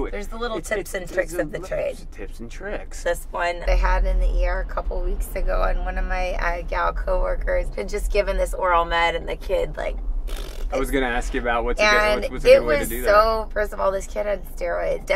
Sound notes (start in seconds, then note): 10.3 blows raspberries